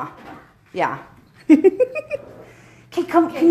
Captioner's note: laughs